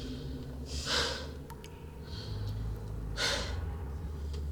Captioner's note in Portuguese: respirações exaustas